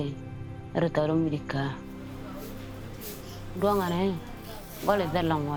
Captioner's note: speaking in foreign language